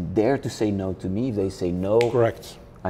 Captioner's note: snaps fingers